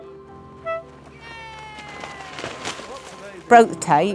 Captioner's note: horn honking; audience cheering